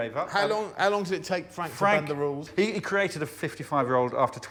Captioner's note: laughter